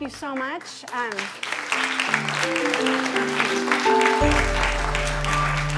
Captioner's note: applause